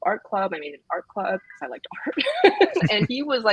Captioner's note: laughs